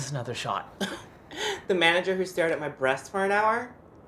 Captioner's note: scoffs